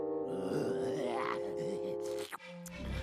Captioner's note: growling